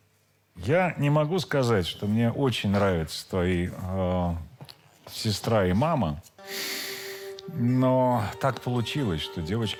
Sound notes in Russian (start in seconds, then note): 6.4 тяжело вздыхает; 6.7 вздыхает